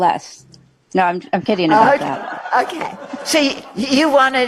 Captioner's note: crowd laughter